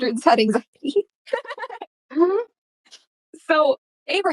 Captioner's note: laughter